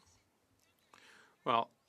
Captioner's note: speaking French